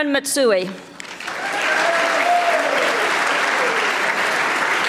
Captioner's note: audience applauding